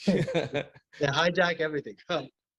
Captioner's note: laughing